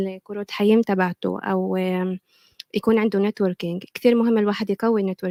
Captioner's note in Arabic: لغة أجنبية; لغة أجنبية